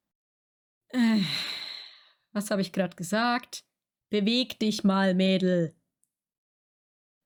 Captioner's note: sigh